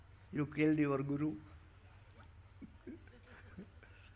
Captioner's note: laughs